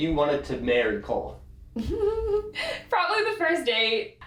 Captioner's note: giggle